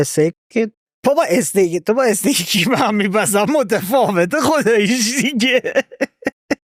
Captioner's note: laughs